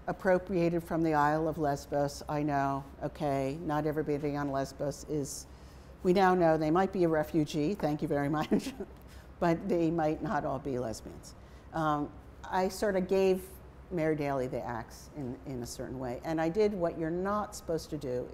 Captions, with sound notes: appropriated from the Isle of Lesbos, I know, okay? Not everybody on Lesbos is, we don't know, they might be a refugee, thank you very much (chuckles). But they might not all be lesbians. I sort of gave Mary Daly the ax in a certain way. And I did what you're not supposed to do,